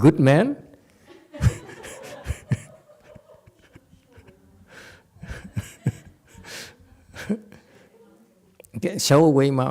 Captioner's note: laughs